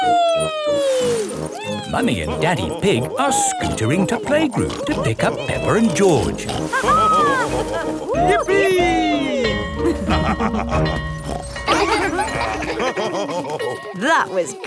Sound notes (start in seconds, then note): 6.6 both laughing; 8.8 school bell ringing; 9.9 both laughing; 11.0 daddy pig snorts; 11.4 children laughing; 12.8 daddy pig laughing